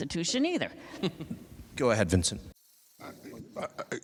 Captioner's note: laughs